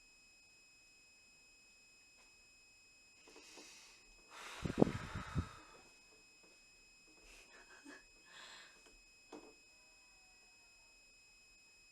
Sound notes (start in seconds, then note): 4.3 deep sigh; 7.4 laughs